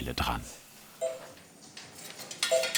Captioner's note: quiet, bright sounds